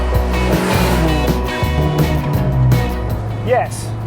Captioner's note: car vrooms